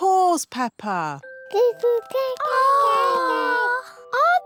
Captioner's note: babies gurgle